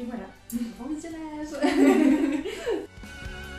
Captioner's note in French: rires